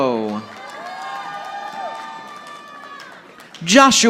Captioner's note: audience applauding